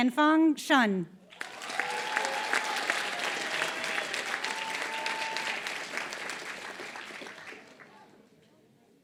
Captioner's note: applause